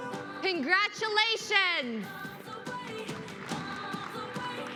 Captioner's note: applause